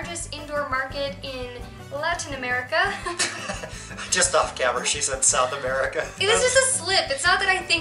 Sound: laughter

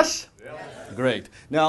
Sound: audience shouting, "yes"

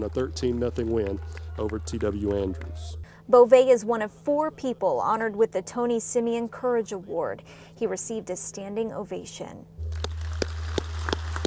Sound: applause

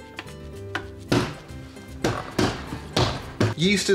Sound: loud banging on plastic

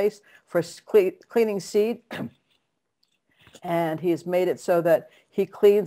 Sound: clears throat

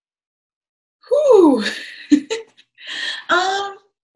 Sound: chuckles

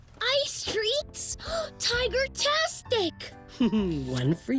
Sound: gasps; chuckles

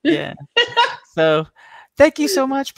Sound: laughing

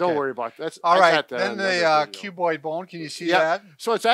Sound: mumbling

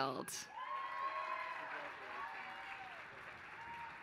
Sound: applause

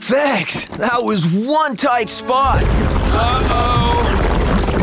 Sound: cheering

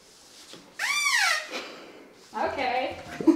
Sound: door hinge creaking; softly laughing

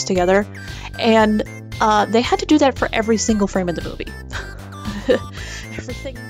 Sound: nervous laughter

